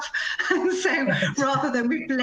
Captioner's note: laughter